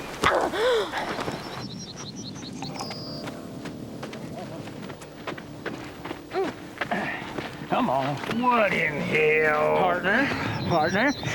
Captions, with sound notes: (footsteps approaching) Come on. - What in the hell? - Partner, I got me this fily here,